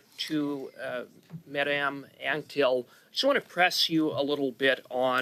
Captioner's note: speaking French